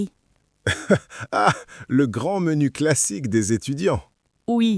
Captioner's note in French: rire